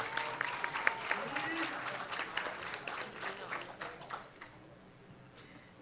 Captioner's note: applause